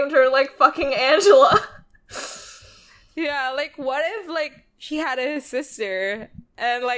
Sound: laughs

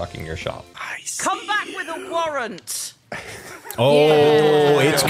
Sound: whispers

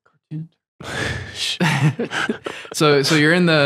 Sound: laughter

